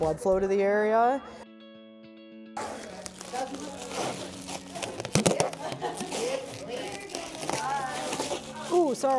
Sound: tape peeling

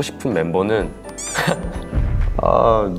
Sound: haha

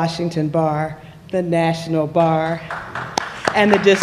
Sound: applause

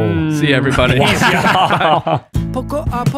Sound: fathers laugh; singing in Spanish

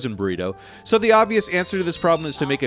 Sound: text chimes

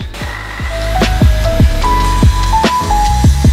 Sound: saw grinding

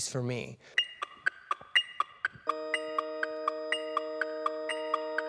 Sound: metronome beats

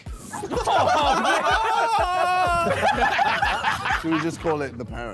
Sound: Sidemen laughing

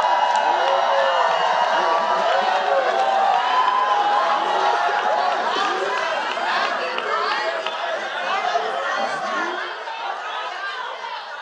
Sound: cheers & Applause

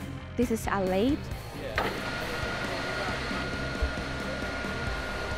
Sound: machine sounds

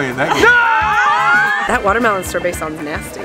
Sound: yelling

